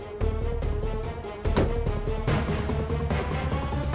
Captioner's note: car door closes